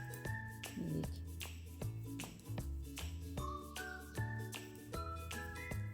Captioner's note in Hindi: नाक से की जाने वाली आवाज़